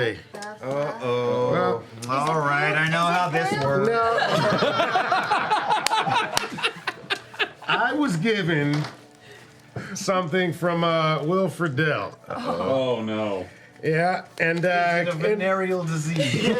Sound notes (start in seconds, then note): 4.1 laughter